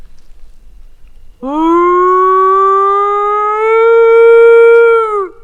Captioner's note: howling